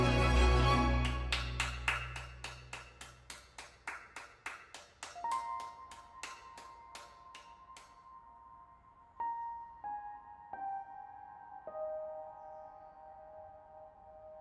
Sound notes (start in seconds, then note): 0.9 hands clapping; 5.2 calm piano music